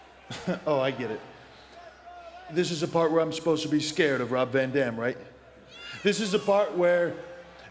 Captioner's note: laugh